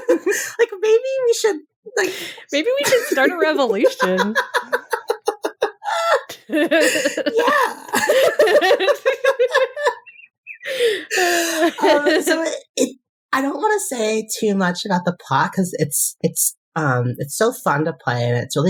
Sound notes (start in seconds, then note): 9.6 both laughing; 10.5 more laughing